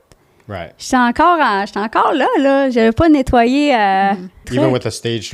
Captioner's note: in french